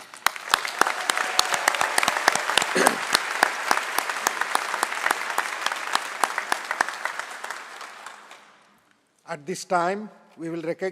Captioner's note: applause